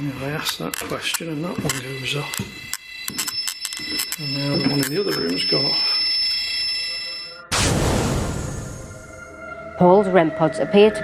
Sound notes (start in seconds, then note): 0.0 metre beeping; 3.8 REM pod beeping; 7.5 ominous music